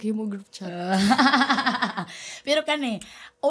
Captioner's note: laughs